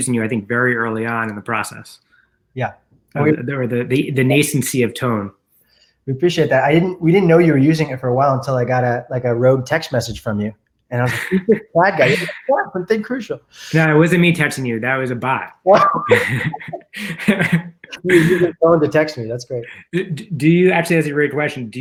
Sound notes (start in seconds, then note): 11.0 mumurs